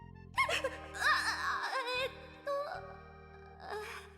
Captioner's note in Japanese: 泣き声